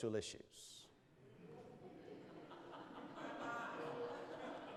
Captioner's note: audience laughs